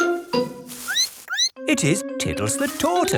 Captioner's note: squeaks